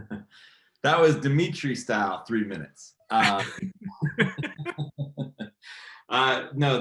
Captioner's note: both laughing